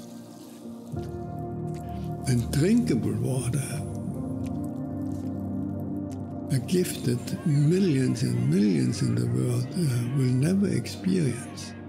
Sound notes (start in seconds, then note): 4.0 dog tongue lapping